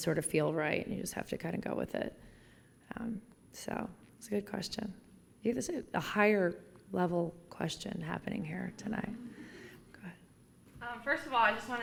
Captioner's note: laughter